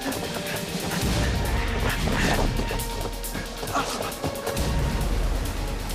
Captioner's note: men panting; dramatic suspenseful music